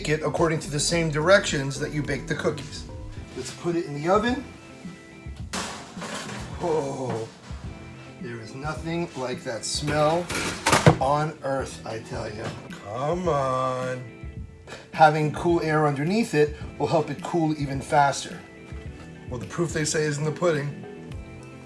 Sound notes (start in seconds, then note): 5.5 pan banging